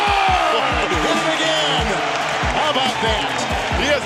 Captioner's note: chuckling